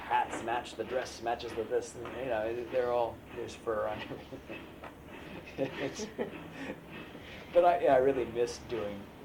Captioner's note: laughs